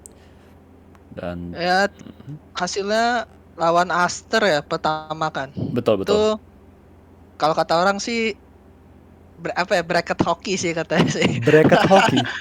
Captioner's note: laugh